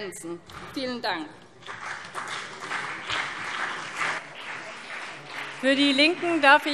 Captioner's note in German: Beifall CDU und BÜNDNIS 90/DIE GRÜNEN